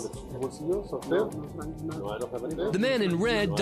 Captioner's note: speaking spanish